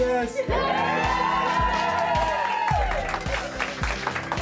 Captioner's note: cheering